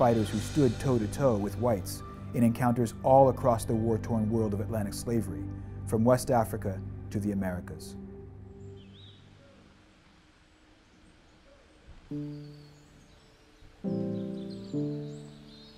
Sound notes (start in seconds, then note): 9.2 birds chirping; 12.0 soft music continues